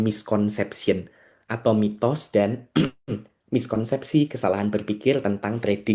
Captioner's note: berdehem